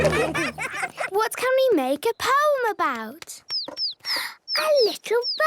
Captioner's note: bird tweeting